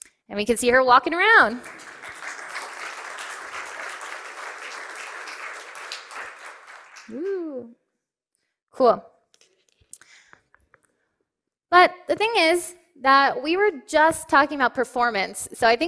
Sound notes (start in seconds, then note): 1.2 applause